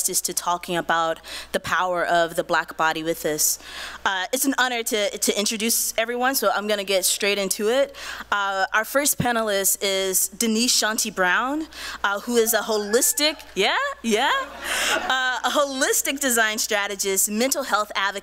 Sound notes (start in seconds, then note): 13.1 cheering; 14.2 laughs